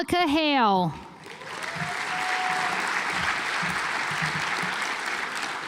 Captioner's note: audience applauds